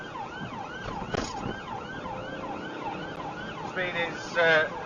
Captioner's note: engine accelerates; car clunks over speedbump